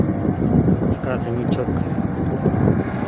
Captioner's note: droning